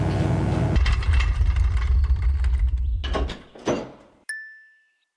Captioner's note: electric buzzing; drawer rolling; bell dings